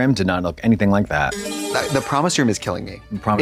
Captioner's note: bright chime